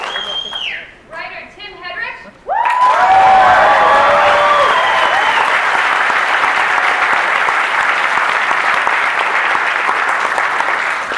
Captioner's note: cheering